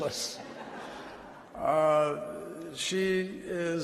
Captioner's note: laughter